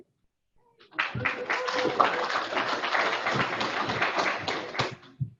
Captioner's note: audience applauding